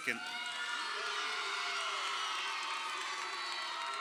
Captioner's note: crowd cheering